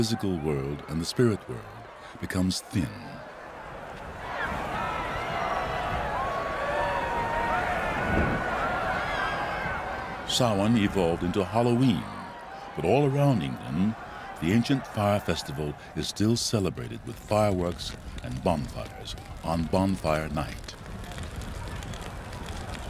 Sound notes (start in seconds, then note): 4.2 Χειροκρότημα